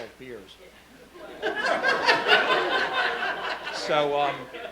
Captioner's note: laughing